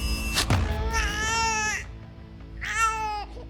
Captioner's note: drums beating; baby crying